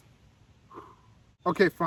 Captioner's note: breathe